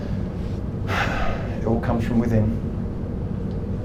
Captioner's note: sighs